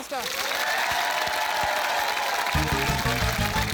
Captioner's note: cheering, applause